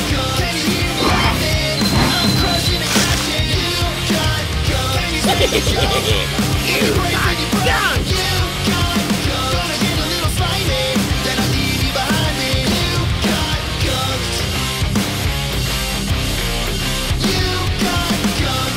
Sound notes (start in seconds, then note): 5.1 mischievous laughter